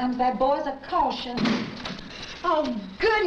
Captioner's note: door crashes open